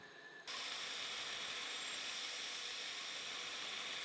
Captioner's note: lathe whirring